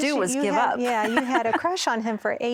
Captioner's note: laughing